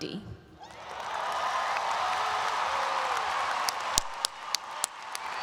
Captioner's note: audience applauds and cheers